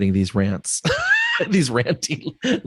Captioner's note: laughs